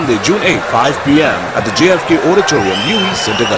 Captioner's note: wild applause and cheering for 22 seconds